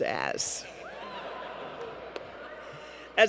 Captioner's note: laughter